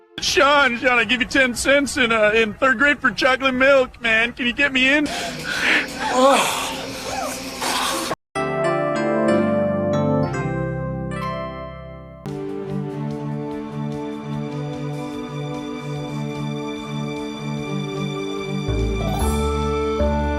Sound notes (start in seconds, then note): 5.0 smex noises